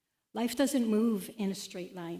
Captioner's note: none